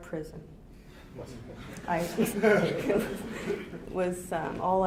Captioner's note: audience laughing